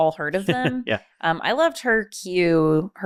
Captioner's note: chuckling